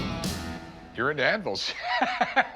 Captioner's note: laughs